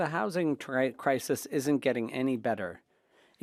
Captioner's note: speaking French